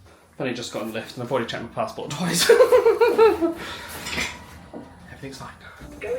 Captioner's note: laughs